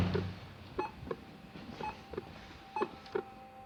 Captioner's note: electrocardiogram beep